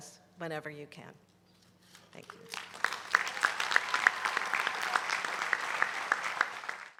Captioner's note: applause